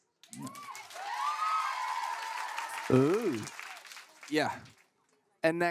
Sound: cheering

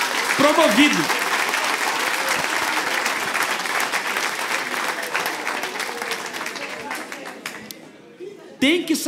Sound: applause

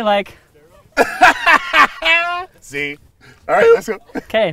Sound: laughter

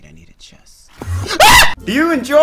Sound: screams

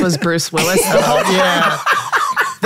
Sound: all laughing

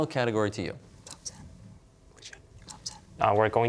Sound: whispering

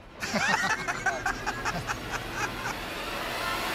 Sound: laughter

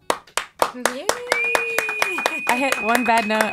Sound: applauding

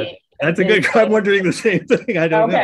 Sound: laughs

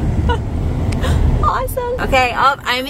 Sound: laughs

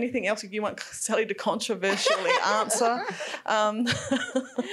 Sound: laughing

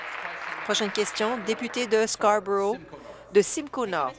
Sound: applause

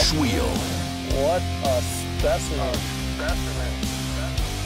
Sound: voiceover

